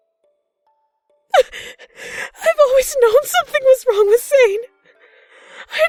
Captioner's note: crying